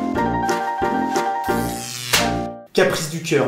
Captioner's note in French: bruit électrique, clap